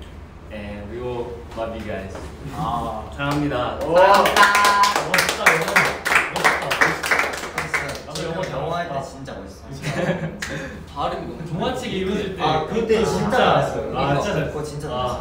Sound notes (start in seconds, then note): 3.8 clapping